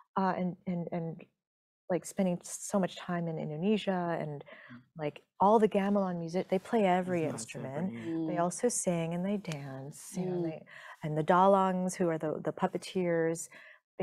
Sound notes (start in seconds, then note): none